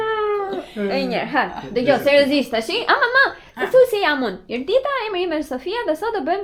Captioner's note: laughter